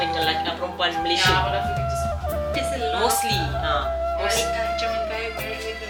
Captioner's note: speaking German